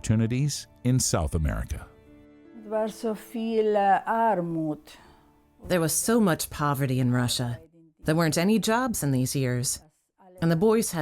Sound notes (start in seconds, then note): 2.8 speaking German